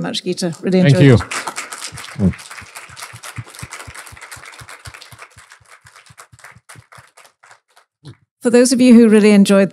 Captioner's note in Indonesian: applause